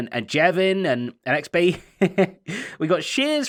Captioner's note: chuckles